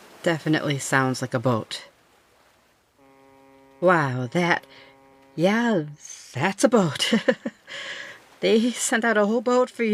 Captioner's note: boat horn again, closer